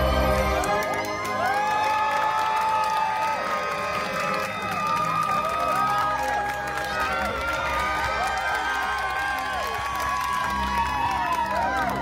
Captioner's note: guests cheering and applauding